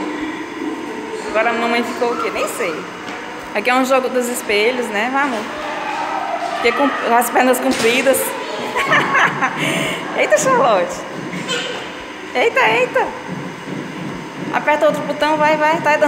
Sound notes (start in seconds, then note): 8.6 laughter